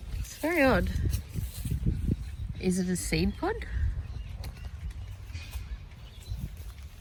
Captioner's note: none